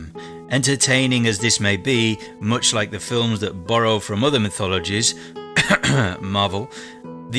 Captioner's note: cough